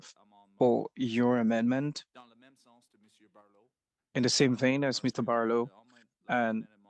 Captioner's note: speaking French